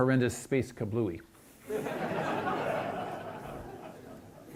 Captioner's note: audience laughs